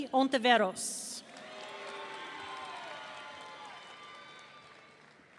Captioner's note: audience cheering